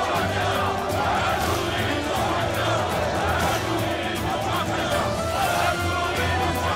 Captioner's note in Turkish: Hep bir ağızdan